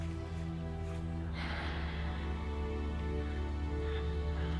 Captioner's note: breathing deeply